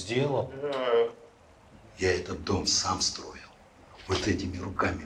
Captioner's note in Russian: мычание